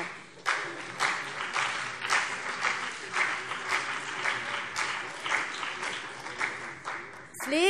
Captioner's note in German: Beifall CDU und BÜNDNIS 90/DIE GRÜNEN